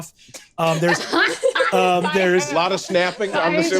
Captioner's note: laughs